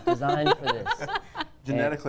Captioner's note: laugh